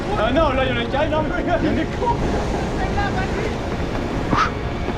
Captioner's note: laughs